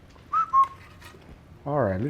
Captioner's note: whistles